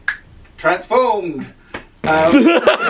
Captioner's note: fingers click; laughs